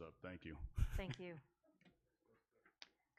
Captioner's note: laughs